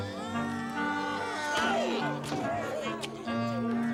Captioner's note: devils screaming